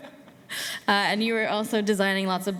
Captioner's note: laughs